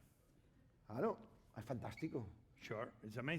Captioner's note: speaking spanish